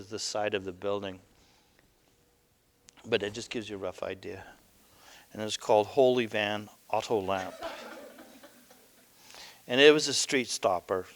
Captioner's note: audience: Laughter